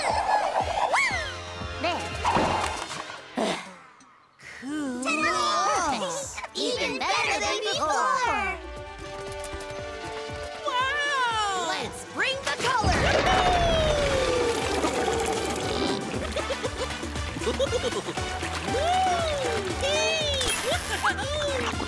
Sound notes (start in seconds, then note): 3.4 sighs; 17.4 giggling